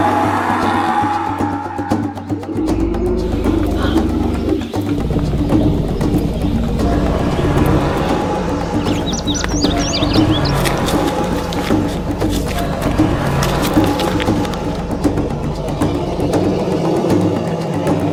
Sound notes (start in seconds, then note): 9.1 birds chirping; 10.9 dinosaur growling continues; 14.2 drumbeat music continues